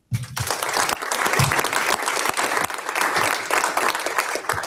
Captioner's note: audience applauds